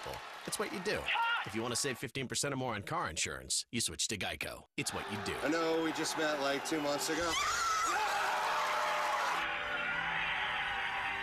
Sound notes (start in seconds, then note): 8.1 crowd cheering